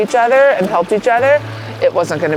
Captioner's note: water sloshing